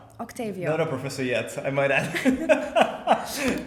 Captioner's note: laughing